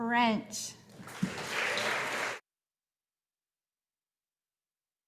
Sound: audience applauding

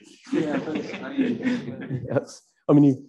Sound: laughing

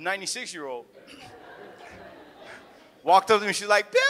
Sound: audience laughs

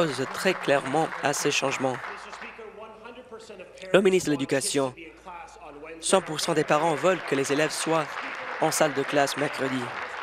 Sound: applause

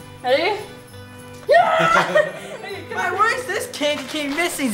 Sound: girl shouting

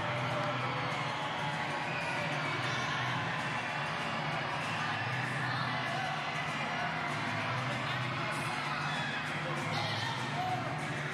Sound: cheers and applause

